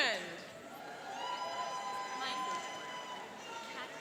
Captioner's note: cheering